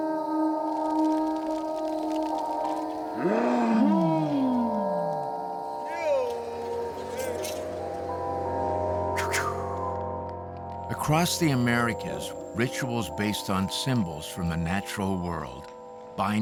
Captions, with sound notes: (grunting) (chanting) (exhales sharply) Across the Americas, rituals based on symbols from the natural world